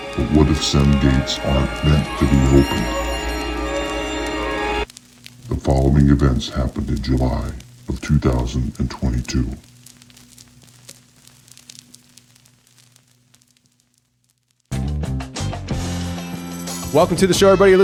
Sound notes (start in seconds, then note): 0.0 eerie music; 3.3 eerie music; 10.0 fire crackling; 15.8 upbeat music